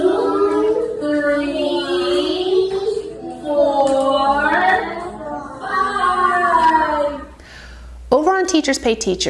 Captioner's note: children counting along